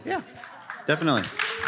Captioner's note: applause